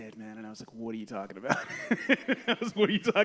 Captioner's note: laughs